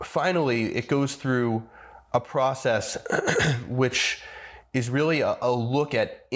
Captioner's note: clear throats